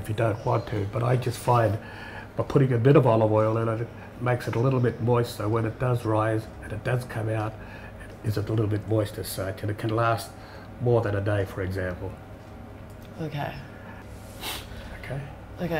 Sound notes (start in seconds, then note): none